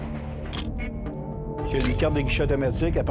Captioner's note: camera shutter click